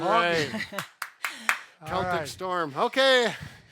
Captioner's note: claps